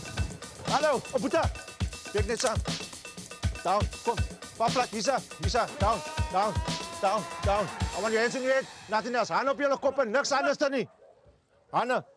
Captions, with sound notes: [Xhosa spoken audio] Down, I want your hands on your head, nothing else.